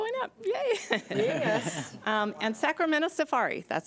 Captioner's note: board members laugh